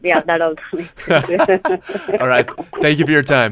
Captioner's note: laughs